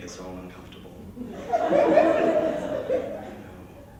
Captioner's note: laughter